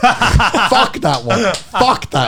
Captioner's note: laughing